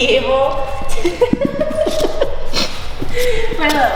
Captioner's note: laughs softly